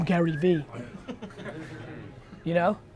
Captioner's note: crowd laughs